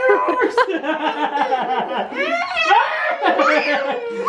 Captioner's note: laughing